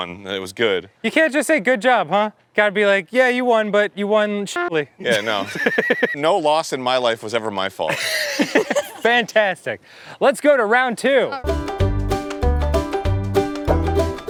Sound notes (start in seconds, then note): 5.0 laughs